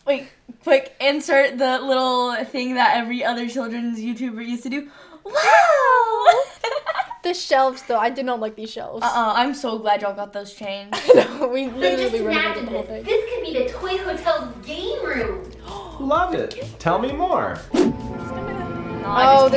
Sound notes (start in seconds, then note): 5.3 laughs; 15.6 gasps; 18.2 tense music